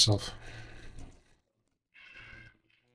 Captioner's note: door opening